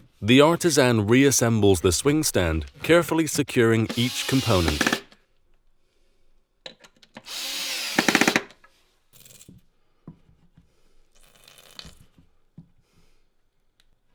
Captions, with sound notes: The artisan reassembles the swing stand, carefully securing each component. (drill whirring)